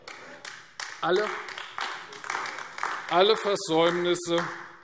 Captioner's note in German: Beifall AfD